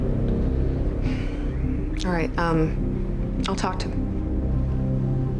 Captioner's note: sighs